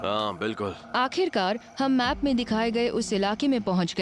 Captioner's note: narrating